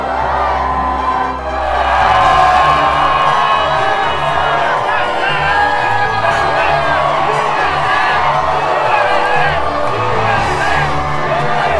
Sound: cheers

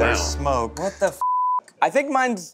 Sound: beep

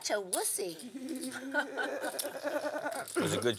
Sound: laugh

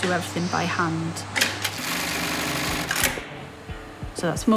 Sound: machine vibrating & clicking

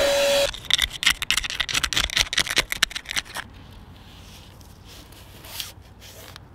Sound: vacuum sounds

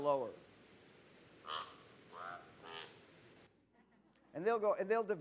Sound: bird Sound

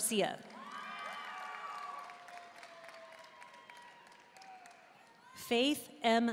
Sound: audience cheering and applauding

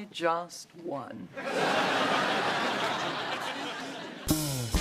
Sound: laughter

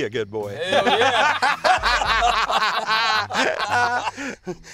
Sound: laughing

